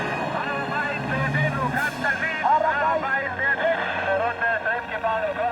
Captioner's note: speaking foreign language